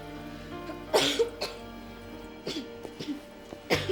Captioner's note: coughs